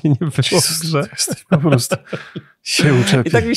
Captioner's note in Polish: śmiech